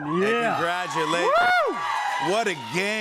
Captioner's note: cheering